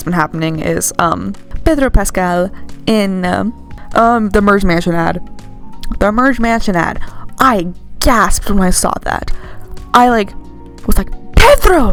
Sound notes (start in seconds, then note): none